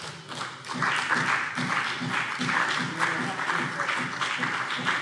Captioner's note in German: Beifall CDU und BÜNDNIS 90/DIE GRÜNEN